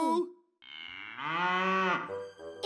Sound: Butterscotch moos

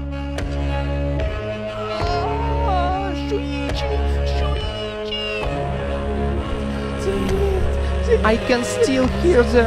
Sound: screams

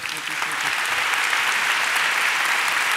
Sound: applause

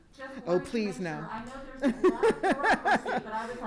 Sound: laughing

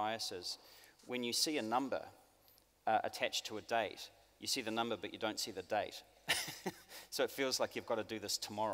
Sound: laughs

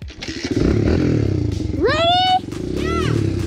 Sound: engine revving

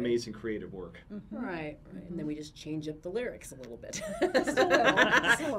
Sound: laughs

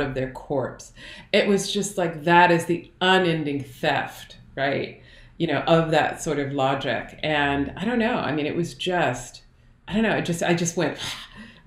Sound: exhale

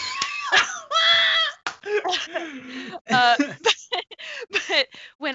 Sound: both laughing

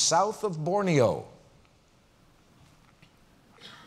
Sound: pause

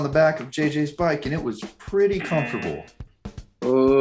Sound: buzzer

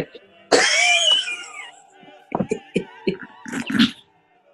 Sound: laughter

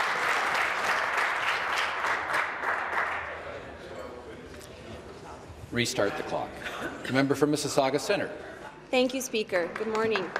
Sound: applause

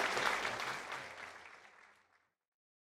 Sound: audience applauding

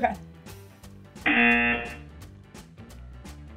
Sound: buzzer rings

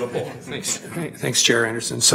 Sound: laughing

